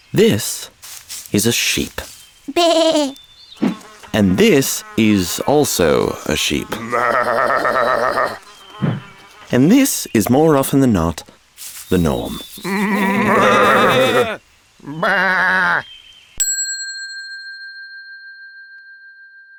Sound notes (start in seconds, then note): 3.6 sheep bleats; 12.6 sheep bleat; 15.1 lone sheep bleating; 16.4 bell dings